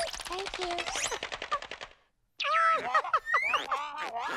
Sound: laughs; chuckles

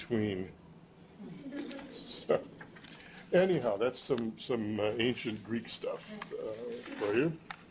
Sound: chuckles

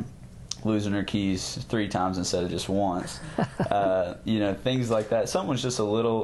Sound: laughter

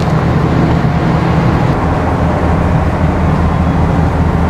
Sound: boat roars

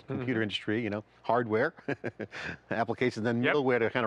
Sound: laughs

